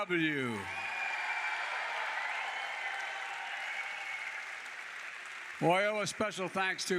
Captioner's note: applause